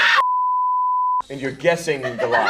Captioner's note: TV beep sound